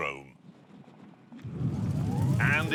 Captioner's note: whoosh